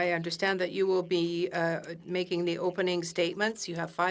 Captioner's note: speaking French